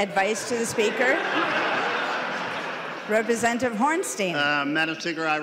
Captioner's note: laughing